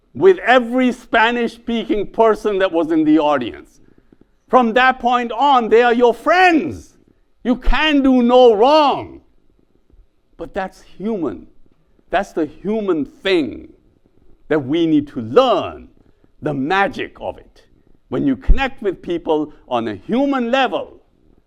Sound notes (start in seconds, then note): none